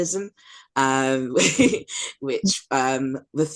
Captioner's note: laughs